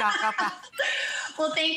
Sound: laughter

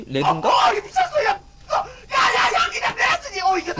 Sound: speaking Korean

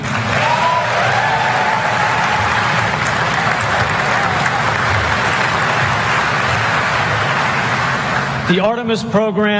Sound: applause

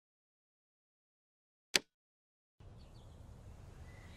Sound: wind blowing softly

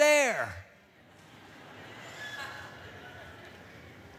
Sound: laughter

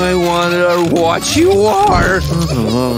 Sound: sighs

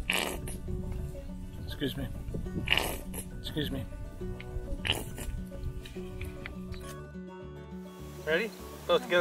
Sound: splat; another splat

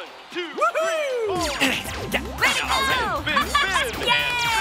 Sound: dad grunting; laugh

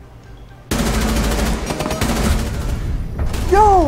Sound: more gunfire at Castle

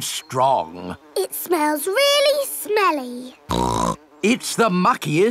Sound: snorts

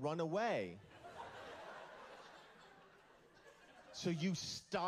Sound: laughter

